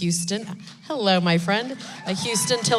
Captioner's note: applause